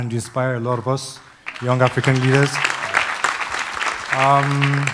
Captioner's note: applause